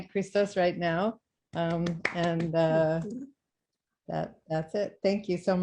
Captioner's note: clapping